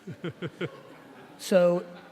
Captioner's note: laughing